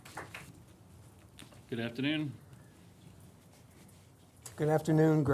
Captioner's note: applause